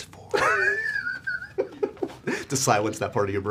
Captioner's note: laughs